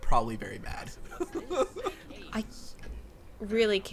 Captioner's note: laughing